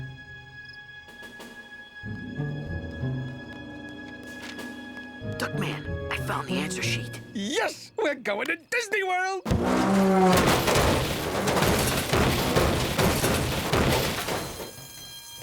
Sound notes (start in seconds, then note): 4.5 whispering; 9.4 loud crashing; 13.9 alarm blaring